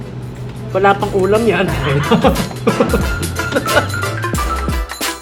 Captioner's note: laughs